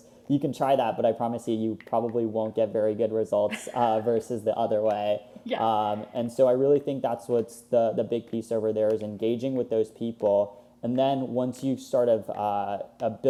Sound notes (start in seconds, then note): 3.5 laughs